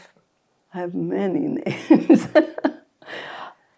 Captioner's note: laughing